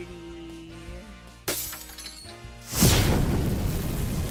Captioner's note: glass Breaking